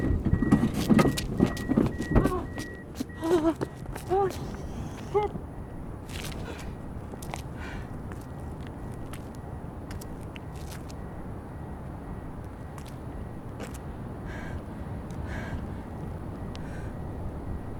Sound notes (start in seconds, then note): 0.0 door opens; 2.1 driver gasps, gags; 7.5 heavy breathing; 9.5 beeping from open car door; 15.1 heavy breathing slows